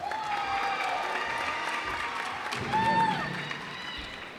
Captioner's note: cheers and applause